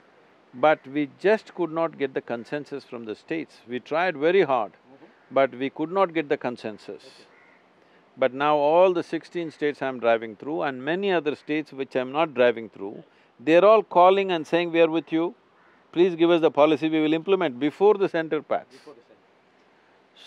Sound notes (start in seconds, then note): none